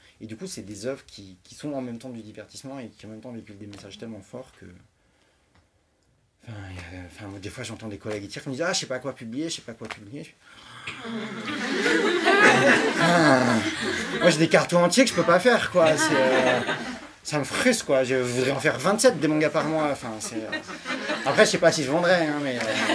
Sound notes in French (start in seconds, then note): 10.5 soupir; 11.1 rires; 22.5 rires